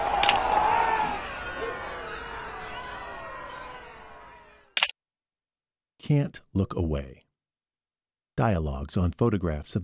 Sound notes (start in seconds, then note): 0.0 spectators cheering; 4.8 shutter clicks